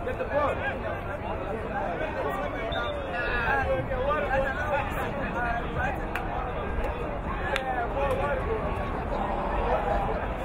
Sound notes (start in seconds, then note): 2.6 whistle blowing